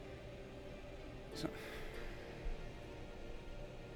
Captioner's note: sighs